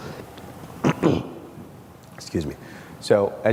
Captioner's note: clears throat